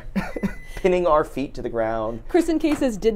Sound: chuckles

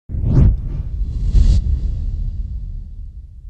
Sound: whoosh effect

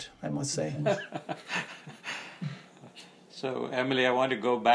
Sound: participants chuckling

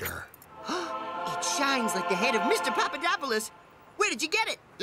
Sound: gasp

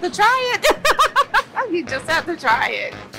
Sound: laughs

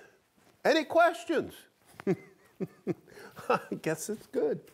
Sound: chuckles

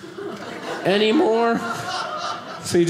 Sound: audience laughing

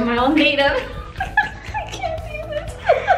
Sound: laughs

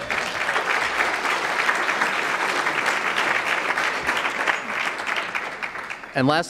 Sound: applause

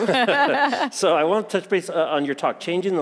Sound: laughing

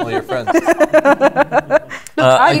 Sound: laugher

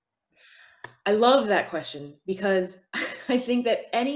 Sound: chuckles

